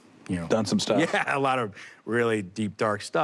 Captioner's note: laughs